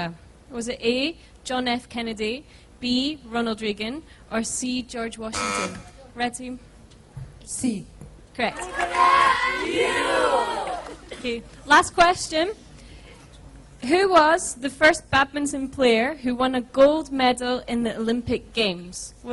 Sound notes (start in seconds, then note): 5.3 buzzer; 8.5 cheering